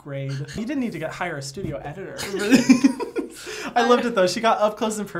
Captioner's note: laughs